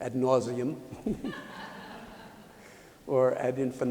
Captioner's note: laughter